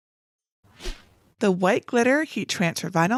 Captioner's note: graphics whooshing